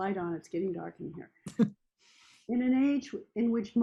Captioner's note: chuckles